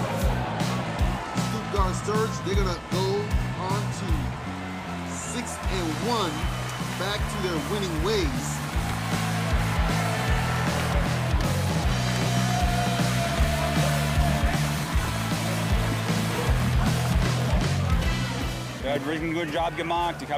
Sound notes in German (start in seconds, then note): 0.3 Dynamische Rockmusik; 9.7 Dynamische Rockmusik; 12.4 Jubel, Applaus